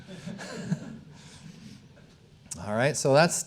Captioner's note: audience chuckling